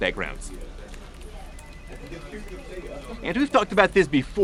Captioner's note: crowded office ambience sounds